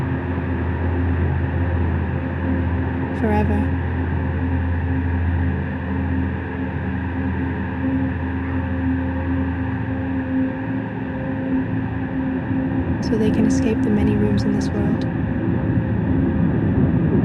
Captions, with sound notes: Forever. (fast wind) So they can escape the many rooms in this world.